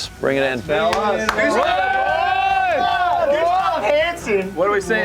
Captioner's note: cheering